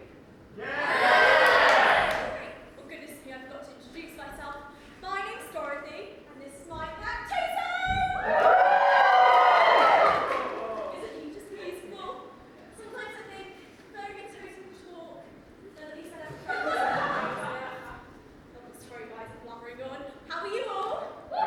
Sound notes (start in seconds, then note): 8.1 audience cheers; 21.3 audience cheers